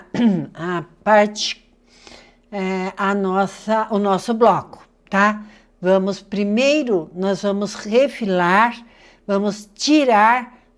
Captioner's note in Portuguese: limpando a garganta